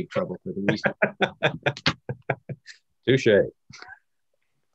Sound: laughs loudly

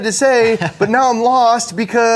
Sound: chuckles

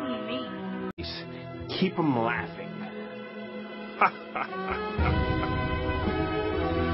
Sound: overdramatic laughing

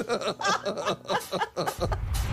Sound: laughter

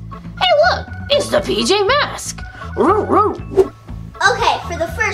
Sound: dog barking

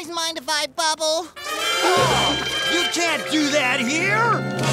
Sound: gasping

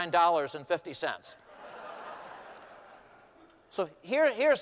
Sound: laughter

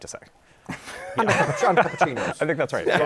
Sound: laughter

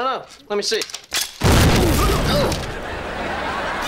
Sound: groaning

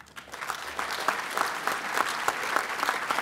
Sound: applause

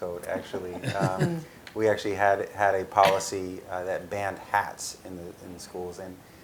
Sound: laugh

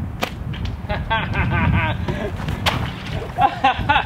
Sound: laughs

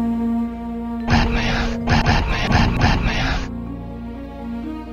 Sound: batman noise

